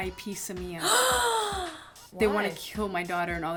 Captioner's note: gasps